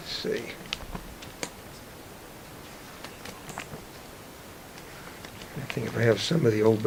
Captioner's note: silence except for album pages flipping